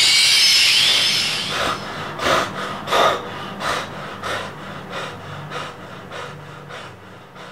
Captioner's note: horror sound; breathes in panic